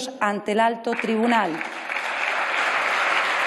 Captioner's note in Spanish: Aplausos